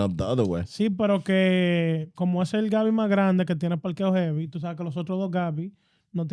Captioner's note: speaking In Foreign Language